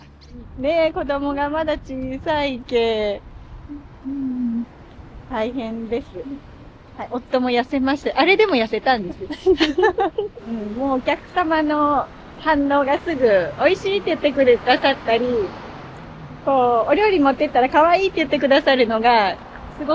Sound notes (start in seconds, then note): 9.1 laughs